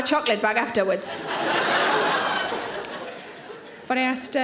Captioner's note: audience laughing